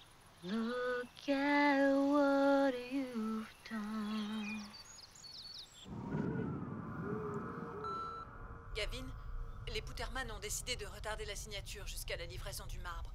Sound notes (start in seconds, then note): 7.2 beeping; 8.9 voiceover